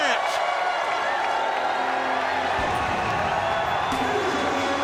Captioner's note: crowd cheering